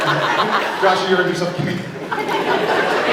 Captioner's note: laughs; scattered laughs